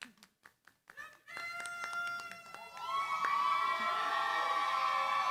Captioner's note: cheering, applause